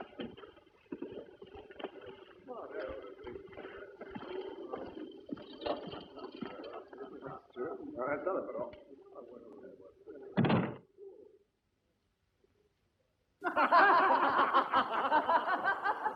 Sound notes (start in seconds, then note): 10.3 door closes; 13.4 boisterous laughter